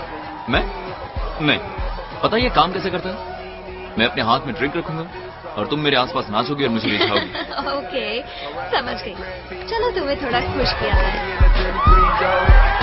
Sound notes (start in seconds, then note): 6.6 laughing; 11.2 hip hop music playing